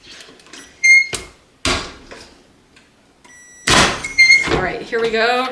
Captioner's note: press hinge squeaking